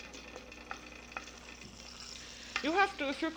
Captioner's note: sizzling